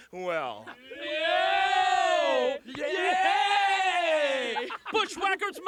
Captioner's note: laugh